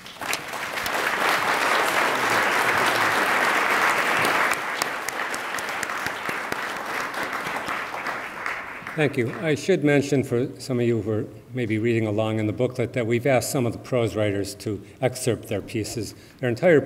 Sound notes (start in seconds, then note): 0.2 attendees applaud; 6.1 attendees applauding